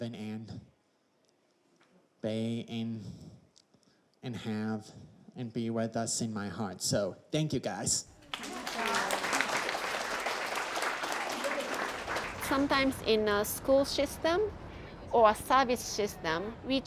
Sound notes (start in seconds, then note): 8.2 crowd claps